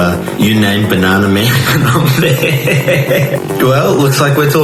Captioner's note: laughs